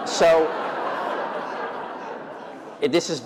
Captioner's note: laughter